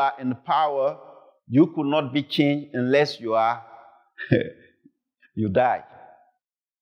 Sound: chuckles

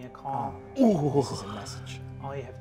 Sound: groans

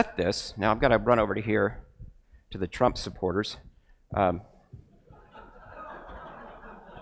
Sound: crowd laughs

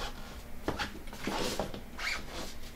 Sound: shop noise

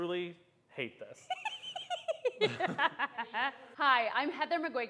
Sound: laughs

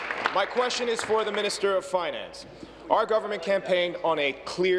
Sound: applause

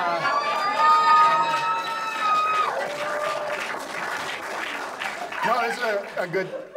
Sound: audience applauds

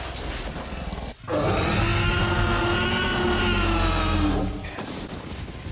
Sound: generic, non-specific lizard roar

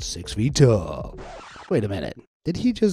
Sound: upbeat real-estate agent voice; record scratches

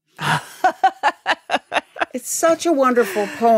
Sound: laughing

